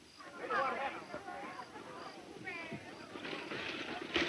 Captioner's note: boisterous chatter